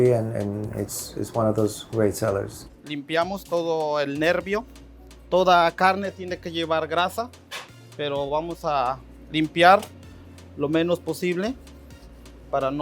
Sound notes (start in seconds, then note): 3.5 speaks Spanish